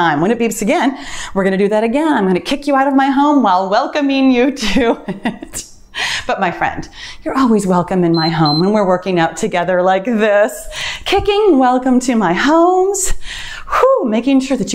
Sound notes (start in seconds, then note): 8.1 timer beeps